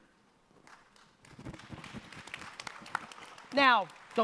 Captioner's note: audience applause